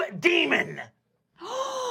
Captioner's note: gasps